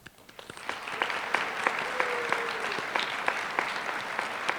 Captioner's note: applause